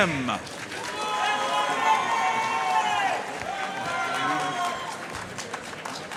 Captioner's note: audience cheering and applauding